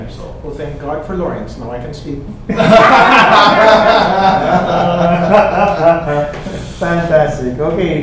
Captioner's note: everyone laughing